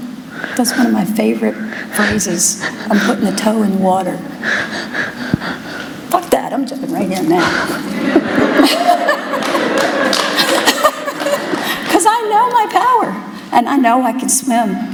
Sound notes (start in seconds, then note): 7.8 laughter